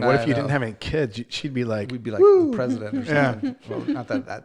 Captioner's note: woo